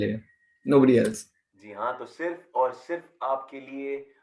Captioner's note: radio